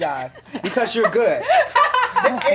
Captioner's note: laughter